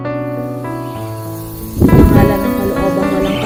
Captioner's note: birds chirping; person speaking in foreign language